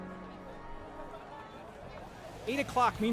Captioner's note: crowd murmur